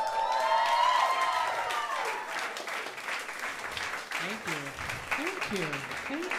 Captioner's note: cheers and applause